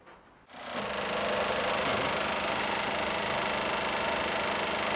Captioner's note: film reel whirs